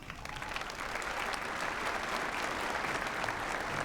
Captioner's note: applause